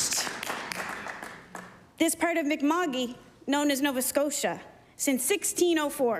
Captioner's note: applause